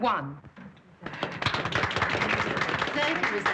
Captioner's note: all applauding